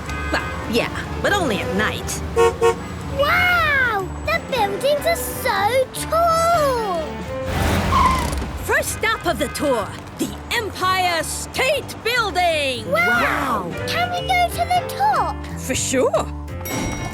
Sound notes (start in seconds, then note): 0.0 honks